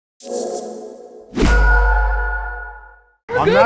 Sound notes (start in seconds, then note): 0.0 tone ringing; 1.3 logo thudding; 1.3 tone ringing